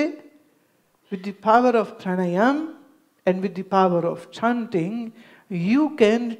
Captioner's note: breathing exercise